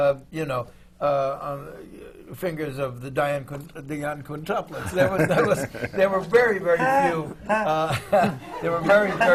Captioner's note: laughter from the panel